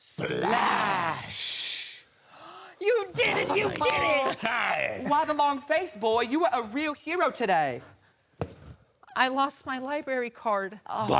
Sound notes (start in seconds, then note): 2.2 heavy breathing; 8.2 clunk